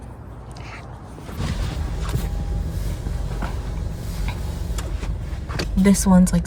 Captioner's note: sound of seat backing up